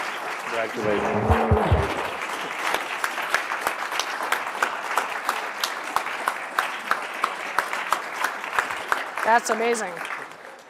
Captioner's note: applause; applause